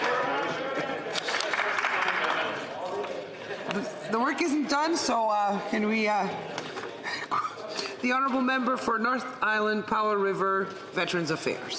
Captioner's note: applause